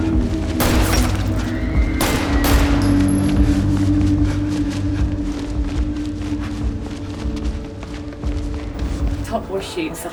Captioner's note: running, sirens, gunshots